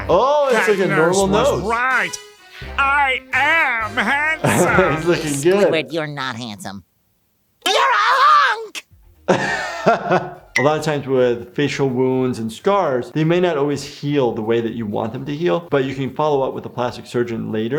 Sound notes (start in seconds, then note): 0.0 upbeat music; 9.3 laughs